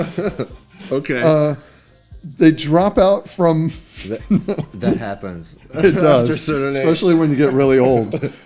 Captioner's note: laughter